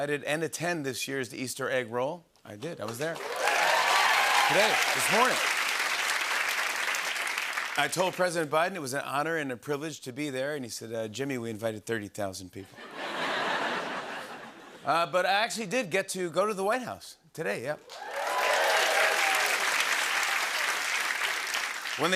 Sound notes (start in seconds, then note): 3.1 cheering and applause; 12.7 laughter; 17.8 cheering and applause